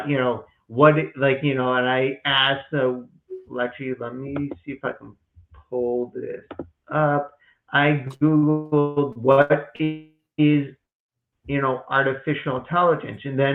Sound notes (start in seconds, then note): 3.9 click of computer track pad